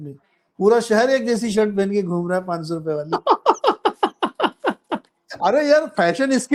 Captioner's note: laughter